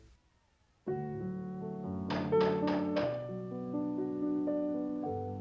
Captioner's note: Knocking